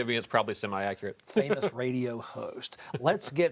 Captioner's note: laughs